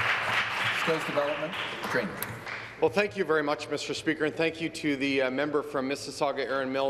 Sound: applause

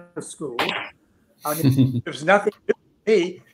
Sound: laughing

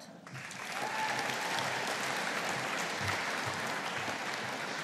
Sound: audience applauding

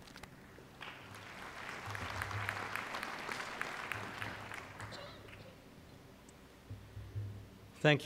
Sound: applause

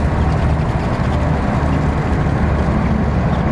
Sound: boat roars

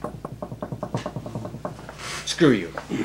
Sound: knock thudding

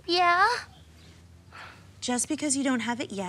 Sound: sighs

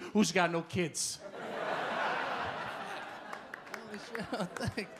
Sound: audience laugh

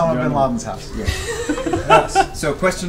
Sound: all laugh

